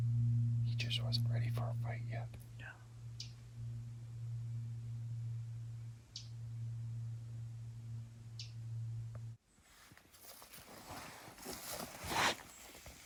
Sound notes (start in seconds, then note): 2.5 birds chirping; 3.8 air humming; 11.8 object rustling